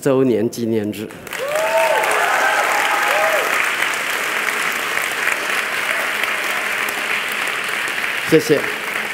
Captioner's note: applause